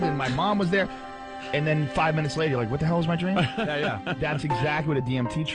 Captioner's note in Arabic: يضحك